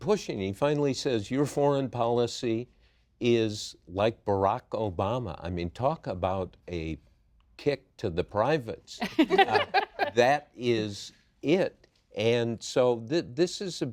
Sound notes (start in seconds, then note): 9.0 laughter